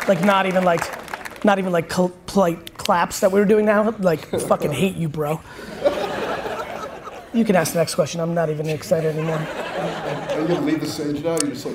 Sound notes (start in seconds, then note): 5.6 audience laughs; 8.6 audience laughs